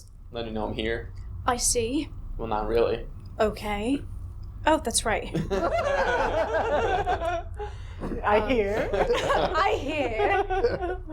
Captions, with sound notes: Just letting you know I'm here. I see. Well, not really. Okay. Oh, that's right. (laughing) I hear.